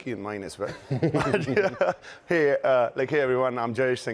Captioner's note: both laugh